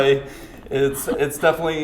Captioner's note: laughs